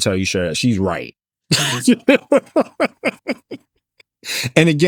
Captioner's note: both Laughing